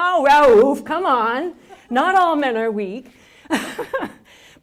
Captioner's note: laughter